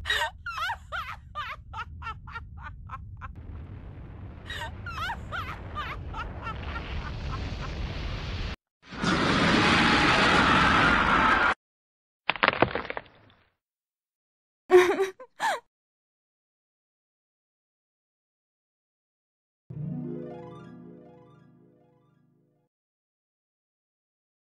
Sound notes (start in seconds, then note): 14.7 sobs